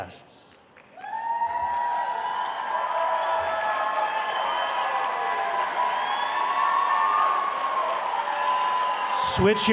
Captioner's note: audience cheering